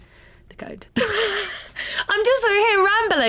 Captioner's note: laughs